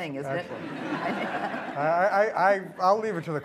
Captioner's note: laughter